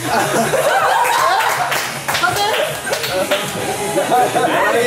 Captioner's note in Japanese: 笑い